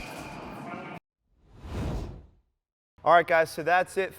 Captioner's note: air swooshes